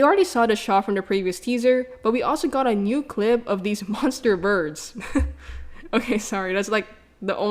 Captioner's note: laughs